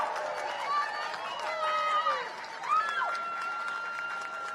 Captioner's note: cheers and applause